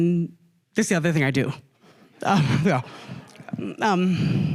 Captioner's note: laughter; huffs